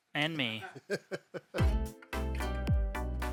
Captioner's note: laughing; upbeat music